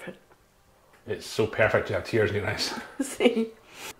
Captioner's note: laughing